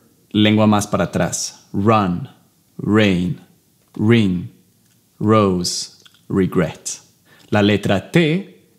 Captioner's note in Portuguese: Inglês